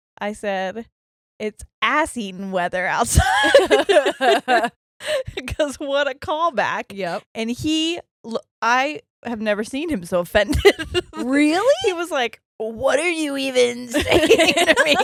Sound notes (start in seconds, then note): 3.1 laughing; 10.5 laughs